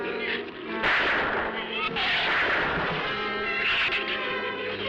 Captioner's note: gunshots